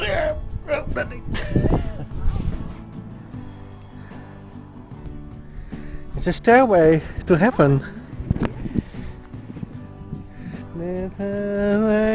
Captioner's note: hums